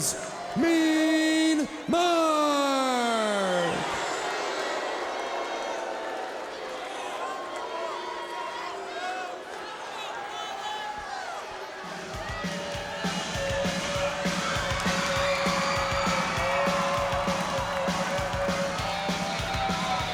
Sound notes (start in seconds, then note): 1.5 crowd chattering; 12.2 upbeat rock music; 12.9 crowd cheering